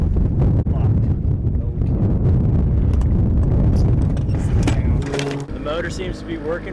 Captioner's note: wind blowing; speaking faintly